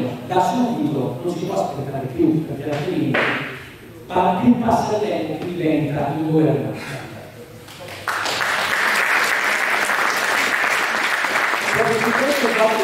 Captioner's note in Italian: Applauso